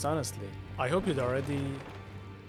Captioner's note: third pile shatters